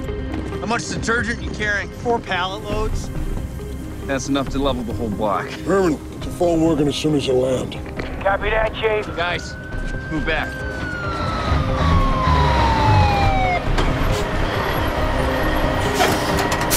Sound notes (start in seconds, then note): 10.6 sirens wailing; 13.6 dramatic music